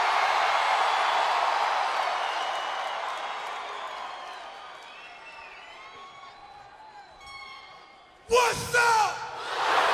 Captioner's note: crowd cheering